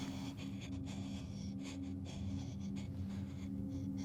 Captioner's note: labored breathing